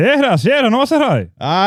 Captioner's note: speaking In Foreign Language